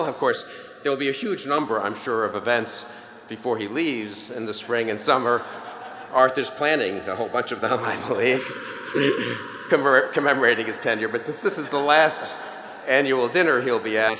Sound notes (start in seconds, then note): 7.5 laughter